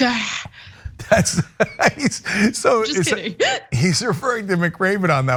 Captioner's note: laugh